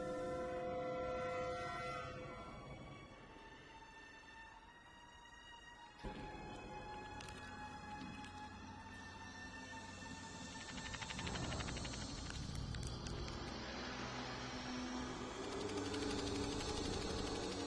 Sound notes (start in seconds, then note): 10.6 monstrous chattering; 15.2 threatening hissing